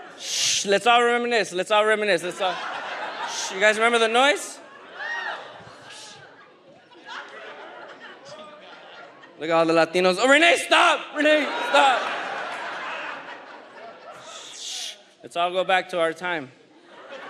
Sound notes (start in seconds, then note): 2.7 audience laughs; 5.8 audience laughs; 6.6 audience member speaks in a foreign language; 11.1 audience laughs